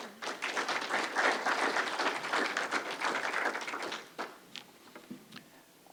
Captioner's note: applause